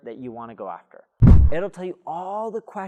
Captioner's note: air whooshing